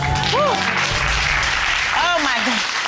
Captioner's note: sighs in relief